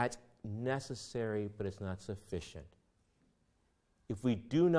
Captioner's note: none